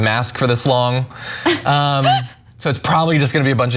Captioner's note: laugh